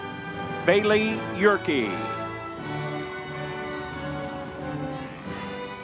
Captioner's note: crowd cheering